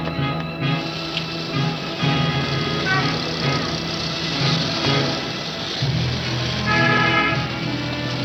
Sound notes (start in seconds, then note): 0.0 ominous orchestral music; 0.2 horn blaring